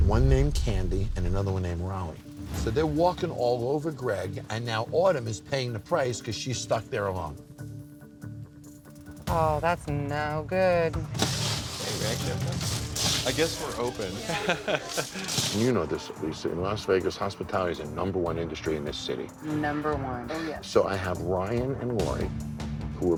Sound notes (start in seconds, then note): 14.2 man chuckling